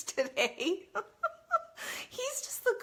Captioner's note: laughs